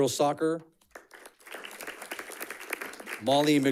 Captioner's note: audience clapping